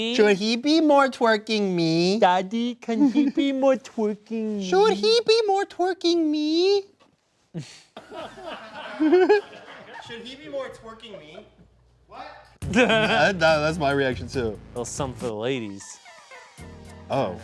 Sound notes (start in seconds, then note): 7.6 all laughing